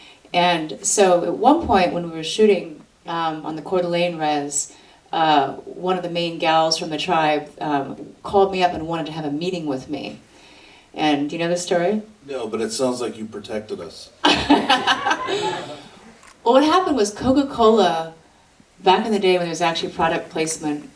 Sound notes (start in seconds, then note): 14.2 audience laughter